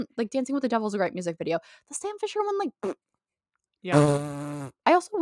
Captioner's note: raspberry sound